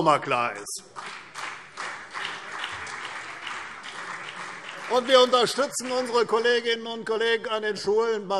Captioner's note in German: Beifall CDU und BÜNDNIS 90/DIE GRÜNEN